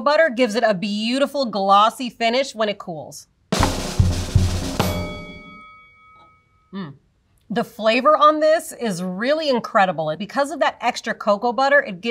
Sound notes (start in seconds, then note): 3.5 drum roll; 4.6 bell dings